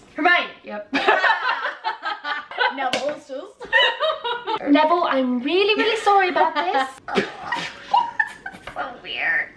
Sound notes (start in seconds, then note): 1.2 laughing; 3.6 laughing; 5.8 laughing; 6.6 laughs